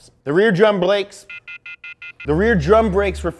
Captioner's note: computer error sound